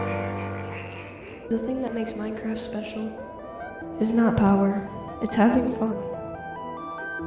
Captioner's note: echo